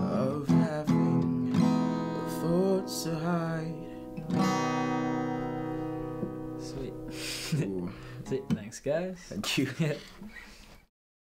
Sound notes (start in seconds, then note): 7.2 Bz giggling; 9.3 Bz giggling; 9.3 laughing